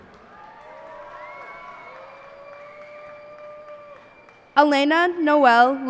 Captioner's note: cheers and applause